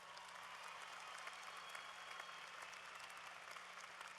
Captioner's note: applause